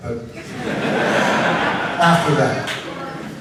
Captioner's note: audience laughs